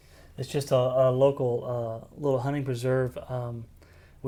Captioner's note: none